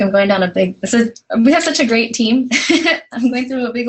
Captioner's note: laugh